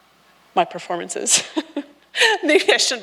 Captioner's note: laughs